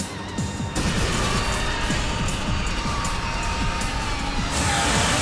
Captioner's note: metal squeals